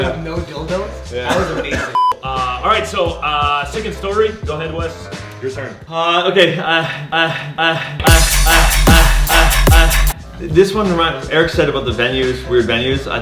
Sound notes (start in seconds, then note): 1.9 beep; 7.8 dubstep music